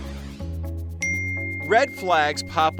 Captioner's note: timer dinging